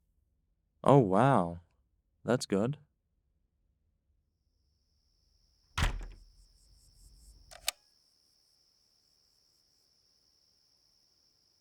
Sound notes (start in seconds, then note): 5.8 door closing; 7.5 clicking sound